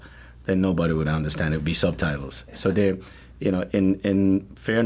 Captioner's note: none